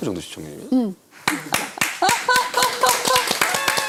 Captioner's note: applause! Applaud! Applaud!